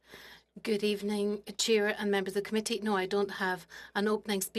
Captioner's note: speaking French